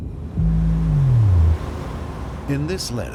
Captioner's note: sea water fizzing